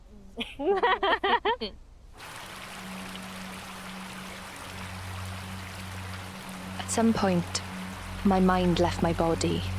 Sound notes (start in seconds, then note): 0.4 both laughing; 2.1 water flowing